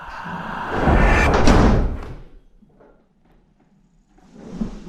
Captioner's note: eerie whispering tones; door slams